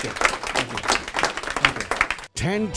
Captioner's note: audience clapping